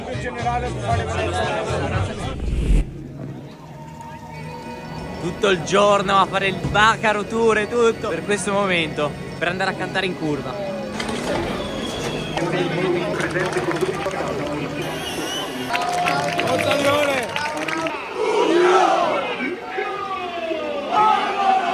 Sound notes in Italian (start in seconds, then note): 12.3 Applauso